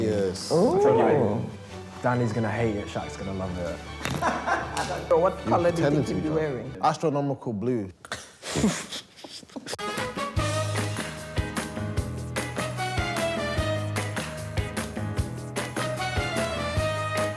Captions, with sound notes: - Danny's gonna hate it, Shaq's gonna love it. (laughs) - So what colour do you think he'll be wearing? - Astronomical blue. (chuckles) (swing music)